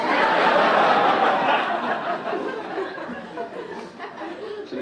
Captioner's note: audience laugh